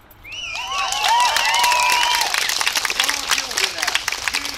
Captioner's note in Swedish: Jubel och applåder